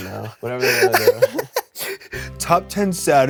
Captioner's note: laughs